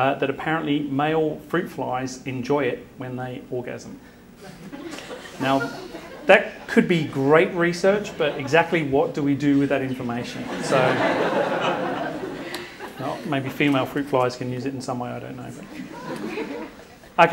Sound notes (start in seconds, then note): 4.9 audience giggles; 11.1 audience laughs